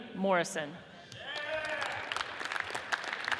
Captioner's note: audience cheers and applauds